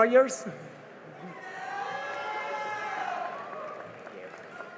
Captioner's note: cheering and applause